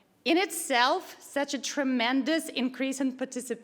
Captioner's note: none